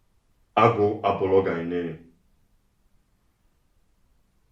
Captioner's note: igbo language